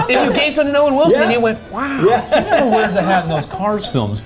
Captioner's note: laughing